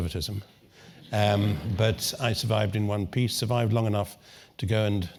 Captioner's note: laugh